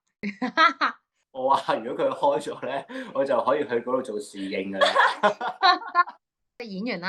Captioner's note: laugh